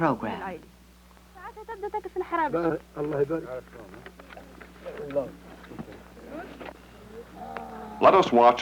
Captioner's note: women conversing